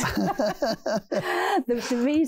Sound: laughing

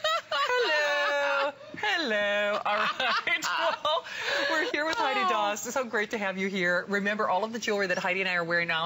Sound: laughter

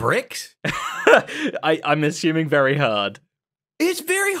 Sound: laughs

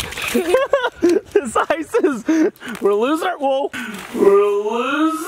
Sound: laughs

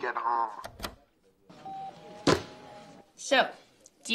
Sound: phone beeps

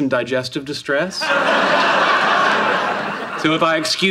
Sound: audience laughing

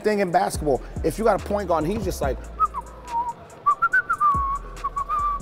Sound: whistles

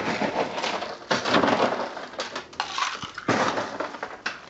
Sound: ice clinking

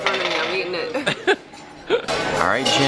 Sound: chuckling

